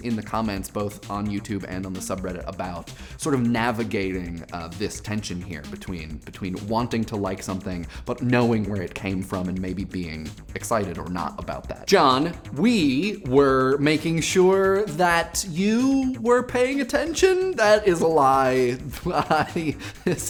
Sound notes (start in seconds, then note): 14.5 voice creaking